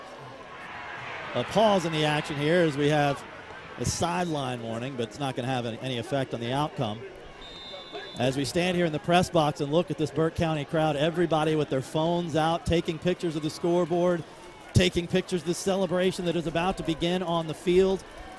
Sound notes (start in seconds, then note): 0.7 crowd noise